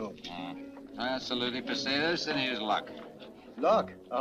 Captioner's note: speaks Spanish